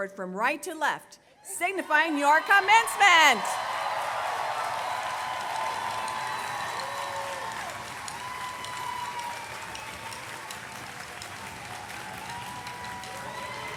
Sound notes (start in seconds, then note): 1.6 applause, cheers